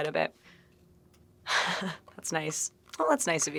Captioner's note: chuckling